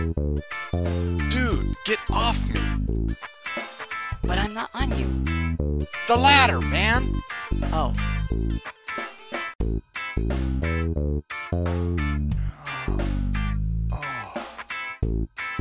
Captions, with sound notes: Dude. get off me! But I'm not on you. The ladder man! Oh. [grumbling]